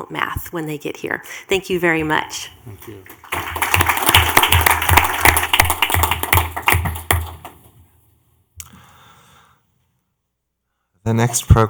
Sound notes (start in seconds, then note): 3.0 clapping